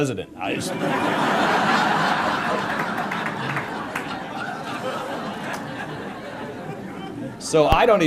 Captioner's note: laughter